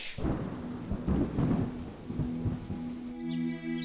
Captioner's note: thunder clap; birds chirp